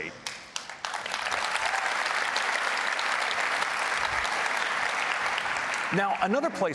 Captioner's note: applause